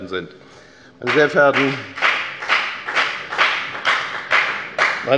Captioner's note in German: Beifall bei der FDP